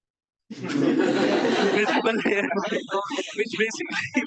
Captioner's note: audience laughs